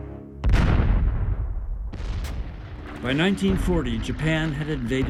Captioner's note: loud blasts